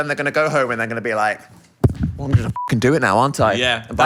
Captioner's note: beep